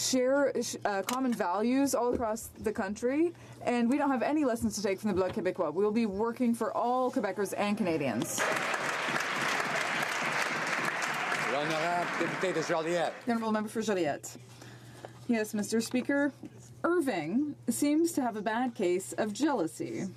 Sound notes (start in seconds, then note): 13.5 some Applause